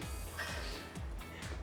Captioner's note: laughing